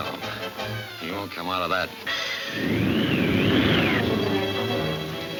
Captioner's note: wind whooshing